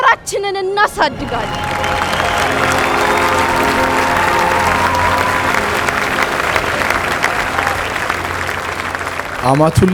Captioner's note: applause